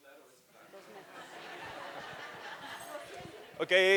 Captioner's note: laughter